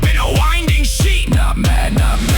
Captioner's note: more intense, layered whispers